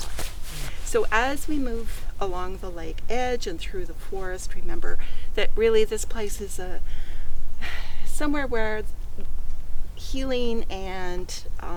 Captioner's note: sighs